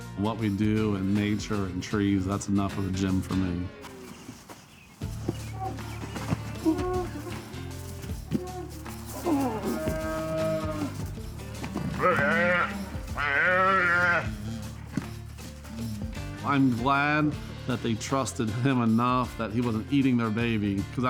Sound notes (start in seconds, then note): 5.2 relaxed music continues; 11.6 cow mooing